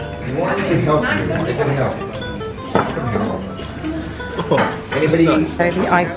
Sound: waiter speaking Spanish

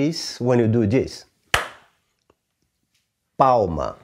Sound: clap

